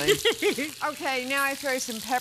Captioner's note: laughs